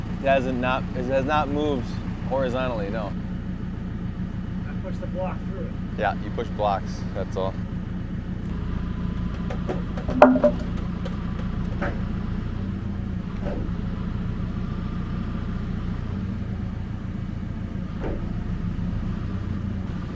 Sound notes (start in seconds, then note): 9.3 plank clanking; 13.1 engine running